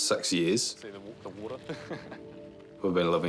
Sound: chuckles

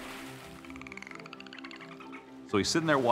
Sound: dolphin clicks

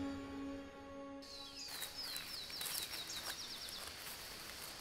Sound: birds chirping

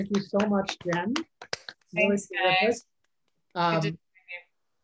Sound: applause

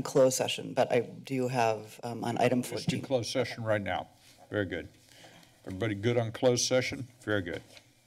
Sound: breathes heavily

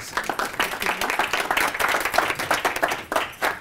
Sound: applause

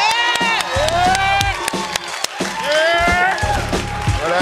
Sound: applause

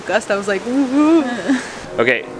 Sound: shudders

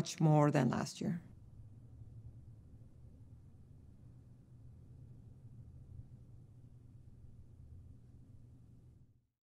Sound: silence

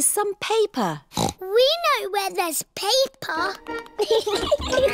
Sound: snorts; giggling

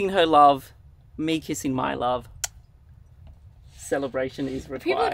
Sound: lips smack

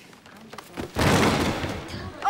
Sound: crash

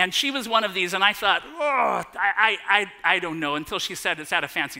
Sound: groan

